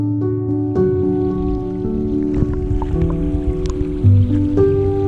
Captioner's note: water murmuring